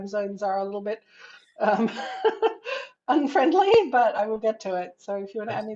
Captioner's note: laughs